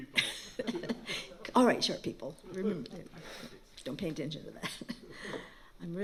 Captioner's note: laughing